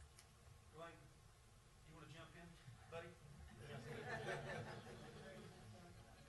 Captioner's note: laughs